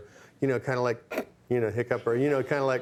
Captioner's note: Bill hiccups